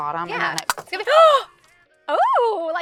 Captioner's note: Olivia gasps